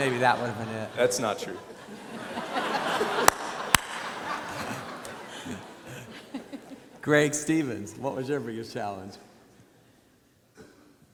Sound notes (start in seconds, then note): 0.0 audience laughs; 2.8 everyone laughs